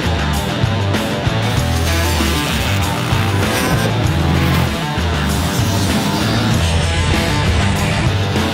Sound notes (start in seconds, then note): 0.5 upbeat rock music continues; 0.8 motorbike engines roaring